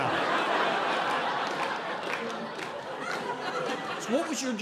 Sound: audience laughing

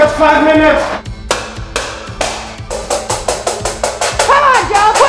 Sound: pans clanging

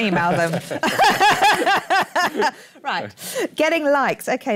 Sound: laughs

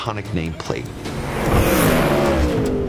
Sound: engine roaring

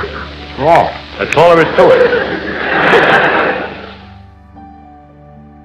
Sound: laughter

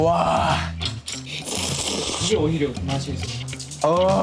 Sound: slurping

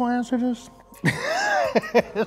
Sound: laughs

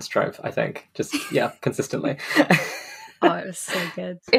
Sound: laughs

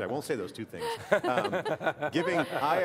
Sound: laughter

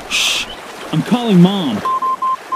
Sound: dial tone

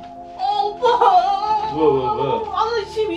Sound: sobbing

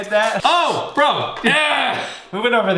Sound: shouting

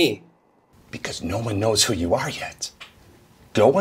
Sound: in quiet voice

